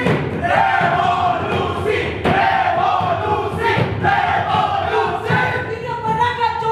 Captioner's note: chant: REVOLUTION!!!